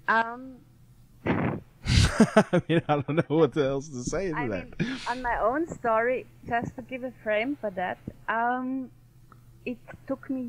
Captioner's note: all laughing